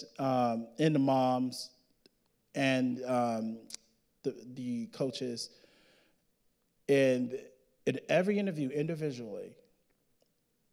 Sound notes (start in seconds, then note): none